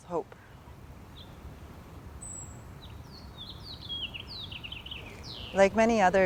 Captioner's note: bird singing